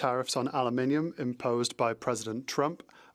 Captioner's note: speaking French